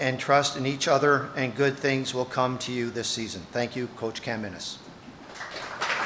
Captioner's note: applause